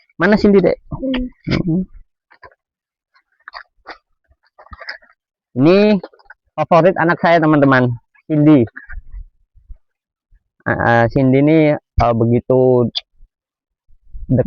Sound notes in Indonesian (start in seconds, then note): 4.4 tertawa